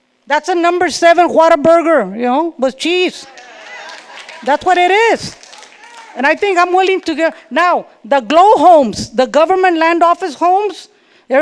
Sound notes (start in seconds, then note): 3.2 audience laughing; 3.2 audience clapping